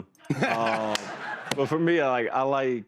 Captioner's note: laughter